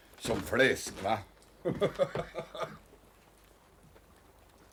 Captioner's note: laughs